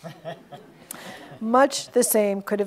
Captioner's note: audience laughs